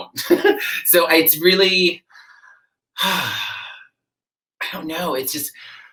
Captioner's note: sighs